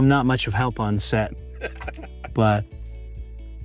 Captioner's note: laughing